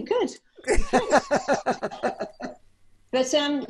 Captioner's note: laughs